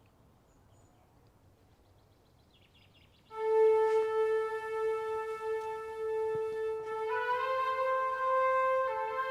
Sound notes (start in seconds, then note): 1.6 birds chirping; 3.3 solemn music